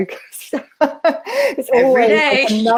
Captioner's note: laughter